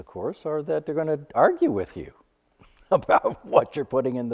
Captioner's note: chuckles